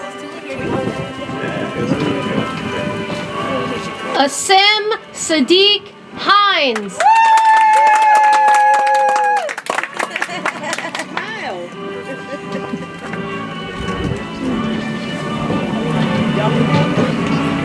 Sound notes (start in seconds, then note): 6.7 audience applauds; 11.3 soft music